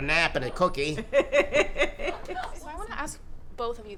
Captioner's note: laughing